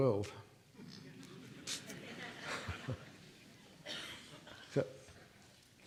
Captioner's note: audience laughing